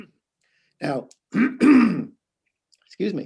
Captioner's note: clears trout